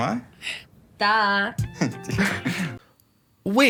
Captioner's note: chuckles